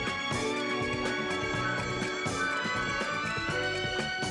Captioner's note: phone ringing